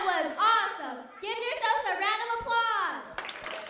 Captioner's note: applause